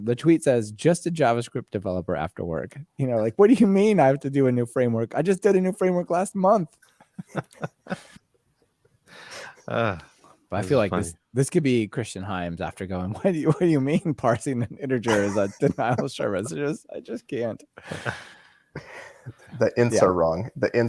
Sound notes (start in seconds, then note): 7.0 laughter